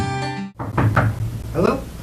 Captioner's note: knocking on door